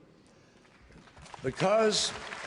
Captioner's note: applause